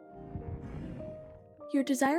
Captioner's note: Warden Grumbles